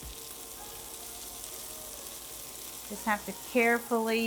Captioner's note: food sizzling